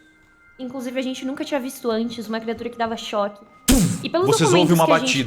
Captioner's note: pow